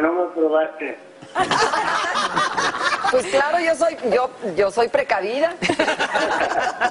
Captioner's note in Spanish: risas